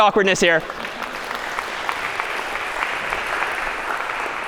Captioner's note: applause